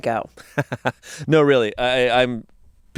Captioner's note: laughs